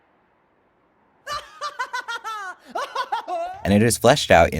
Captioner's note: laughing almost maniacally